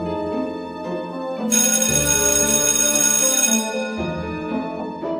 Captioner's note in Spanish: Sonido de campana, Acabo el recreo